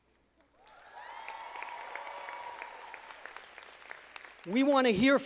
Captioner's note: audience applauding